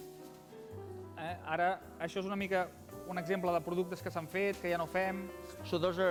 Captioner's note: non-english speech